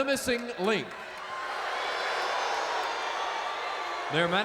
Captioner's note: crowd boos